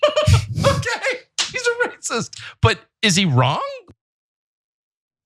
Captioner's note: laugh